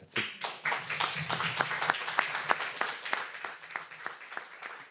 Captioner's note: applause